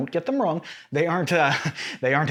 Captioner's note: nervous chuckle